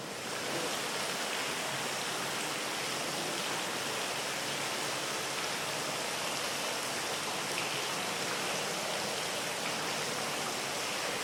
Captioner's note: sound of water